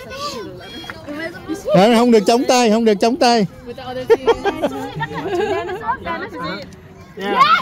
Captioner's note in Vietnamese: Tiếng cười